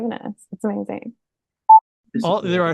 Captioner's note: boop